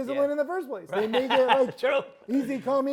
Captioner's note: laughs